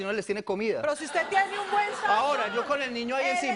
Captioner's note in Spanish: risas